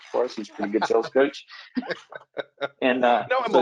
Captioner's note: laughs